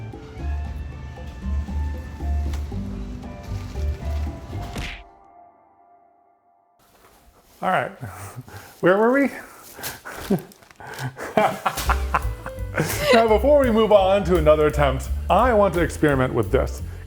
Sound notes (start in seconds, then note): 4.8 impact sound effect; 9.4 laughs